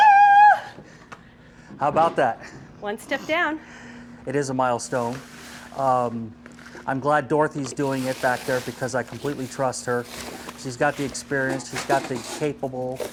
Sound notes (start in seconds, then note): 0.0 humming and cheering